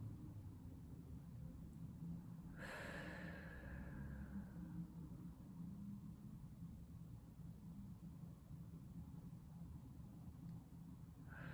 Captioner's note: breathing